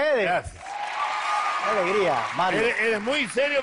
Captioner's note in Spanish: Aplausos